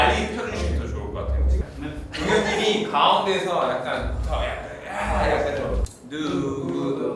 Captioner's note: confident